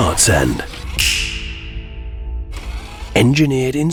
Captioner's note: metallic fingersnap sound